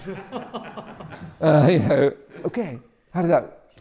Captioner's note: audience laughing